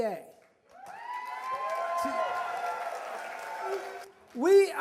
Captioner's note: cheers